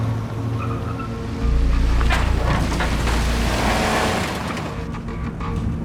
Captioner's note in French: Crissement des pneus